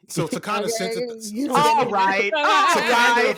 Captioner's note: all chattering